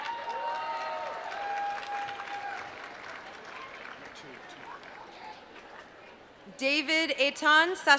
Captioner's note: applause